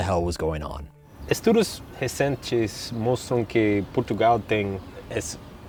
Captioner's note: speaking in Portuguese